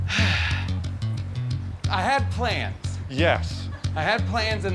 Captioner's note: sighs